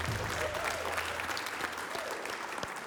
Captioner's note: applause